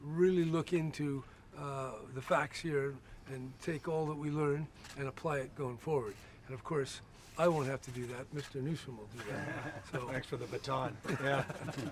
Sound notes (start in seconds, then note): 9.2 laughter